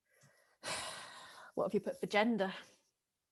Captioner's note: sonia sighs